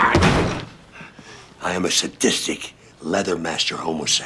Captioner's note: growls